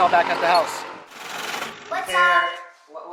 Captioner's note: motor rattles